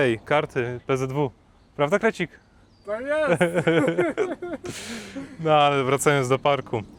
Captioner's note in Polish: śmiech